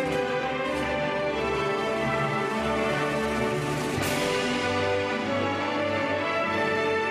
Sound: none

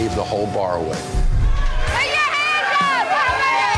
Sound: patrons shouting

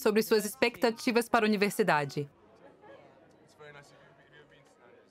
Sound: speaking softly

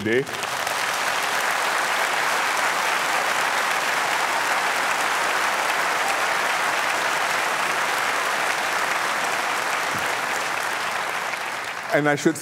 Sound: applause

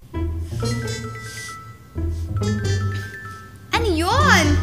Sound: sniffs

